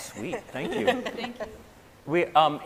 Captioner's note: scientists laughing